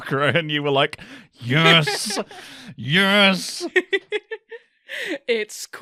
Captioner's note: laughs